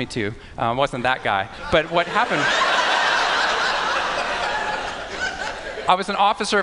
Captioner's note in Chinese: 笑聲